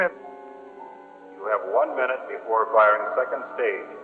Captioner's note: man on PA